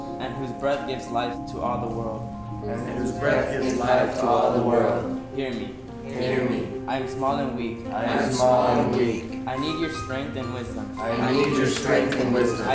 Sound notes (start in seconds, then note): 2.6 group of voices, offscreen; 6.2 group of voices